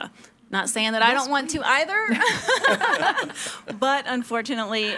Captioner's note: participants laughing